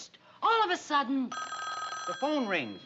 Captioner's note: phone ringing